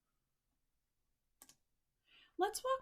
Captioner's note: click